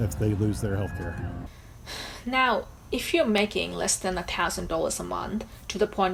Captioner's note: sighs